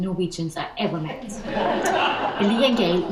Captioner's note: audience laughs